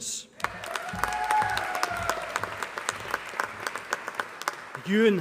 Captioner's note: applause